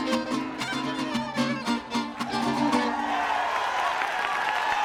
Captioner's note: cheering and applause